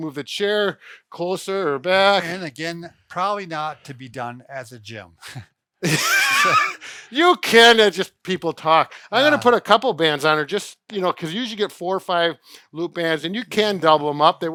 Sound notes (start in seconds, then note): 5.8 laughing